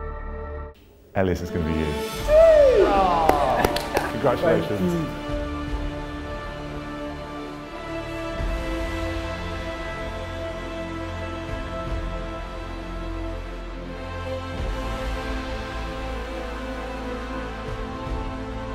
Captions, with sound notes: - Elias, it's going to be you. - Woo! - (applause) - Aw! - Congratulations. - Thank you. - (triumphant music)